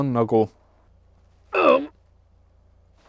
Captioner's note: grunts